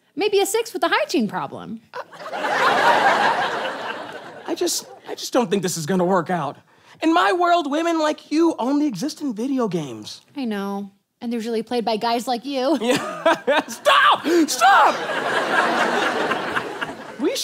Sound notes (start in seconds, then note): 12.8 laughs; 14.2 audience laughs